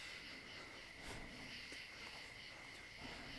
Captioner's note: heavy breathing